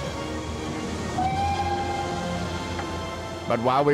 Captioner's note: <i> train whistle toots</i>